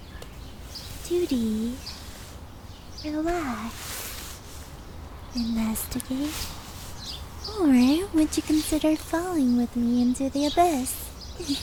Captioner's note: giggle